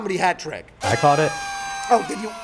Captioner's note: party horn blows